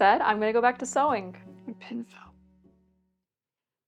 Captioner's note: talking to self